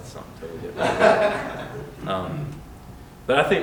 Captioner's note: laughter